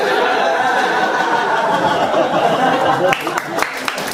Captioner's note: audience laughing